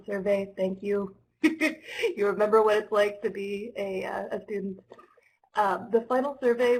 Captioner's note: laughter